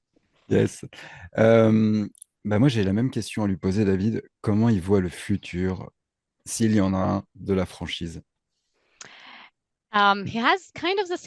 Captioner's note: translating from French